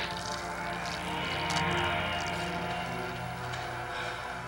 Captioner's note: sparks crackling